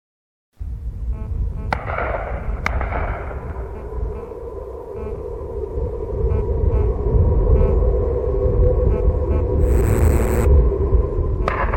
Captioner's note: sounds of chaos and unearthly voices carried on dark winds